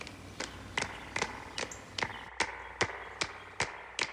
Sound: clapping on beat

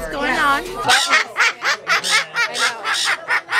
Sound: cawing

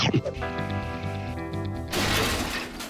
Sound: clattering noise

